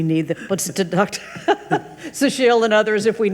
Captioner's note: laughs